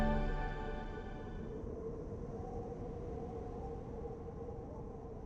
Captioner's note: wind noise